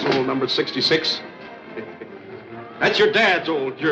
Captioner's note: chuckles